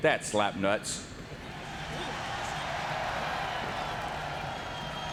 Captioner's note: crowd cheering